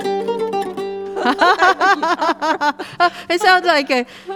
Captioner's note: laugh